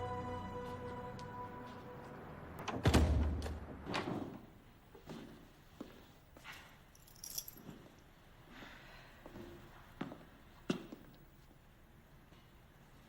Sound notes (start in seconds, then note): 2.5 door closes soundly; 6.9 keys jingle